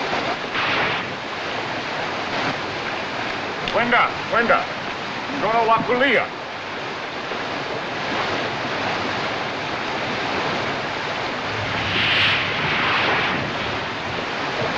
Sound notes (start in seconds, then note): 3.8 speaking African Language